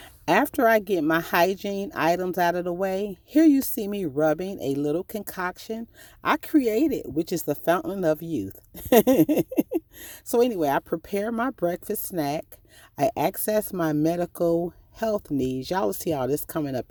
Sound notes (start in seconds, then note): 8.8 laughing